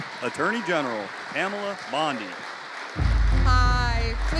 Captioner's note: audience cheering